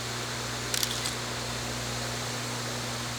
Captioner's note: shutter clicks